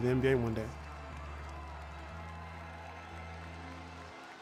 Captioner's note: crowd cheering